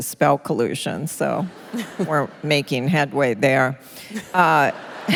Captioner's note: laughter; laughter